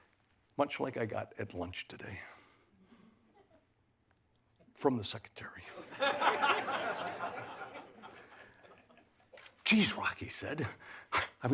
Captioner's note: laughter